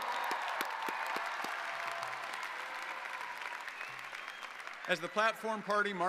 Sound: audience applauding

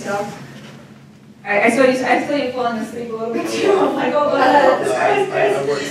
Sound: laughing

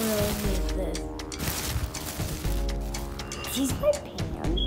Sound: bag rustles

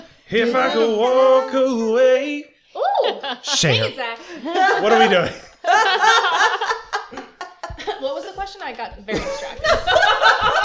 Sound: laughter

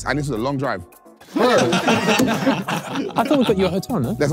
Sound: everyone laughing

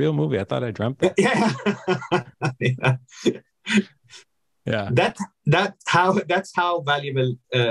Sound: laughs

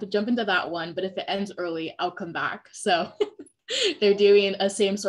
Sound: laughing

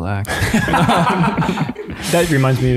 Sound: all laughing

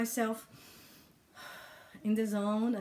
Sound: deep breathing

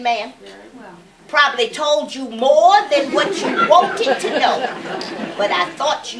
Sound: laughter

